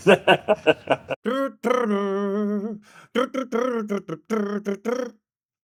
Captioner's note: humming